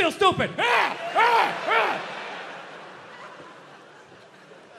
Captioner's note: Bill grunts